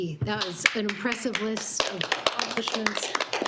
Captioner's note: board applauding